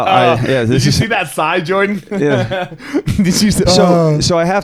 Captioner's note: chuckling